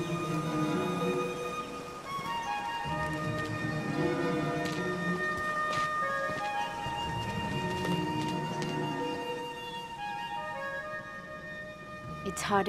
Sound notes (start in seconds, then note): 5.7 footsteps